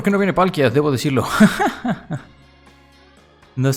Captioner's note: laughs in Spanish